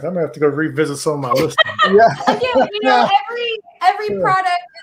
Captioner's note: laughs